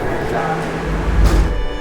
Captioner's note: street din; doors thud